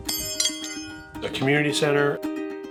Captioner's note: metal tinging